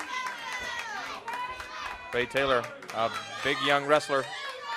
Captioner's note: crowd chatter